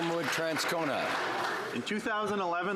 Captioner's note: some Applause